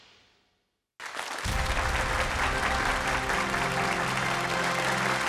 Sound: applause

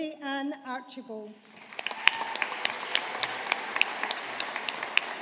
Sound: audience applauding

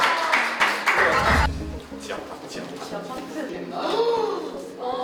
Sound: applause

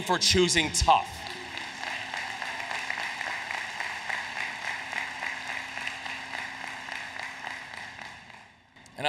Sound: applause

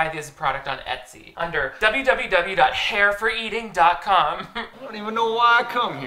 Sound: chuckles

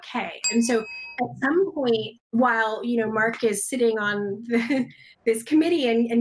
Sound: laughs

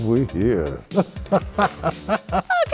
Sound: laughter

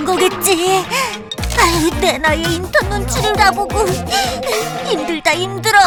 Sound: sigh

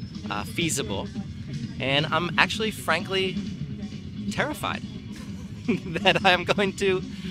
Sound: laughing

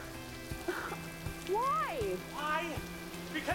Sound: <i>laughs</i>

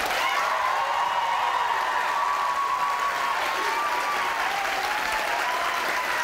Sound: audience applauding and cheering

